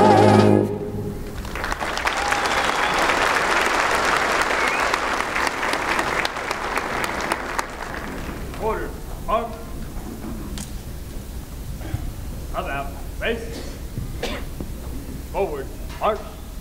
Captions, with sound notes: [APPLAUSE] Order, arms. About face. Forward march.